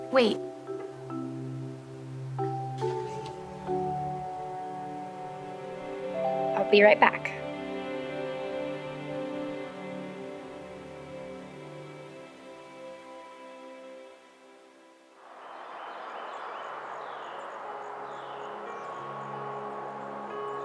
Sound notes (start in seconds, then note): 15.2 birds chirping; 18.0 gentle music